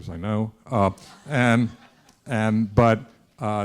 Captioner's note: students laughing